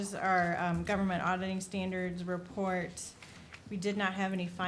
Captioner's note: none